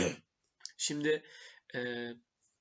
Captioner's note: coughing